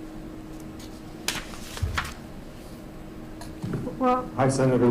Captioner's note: paper rustles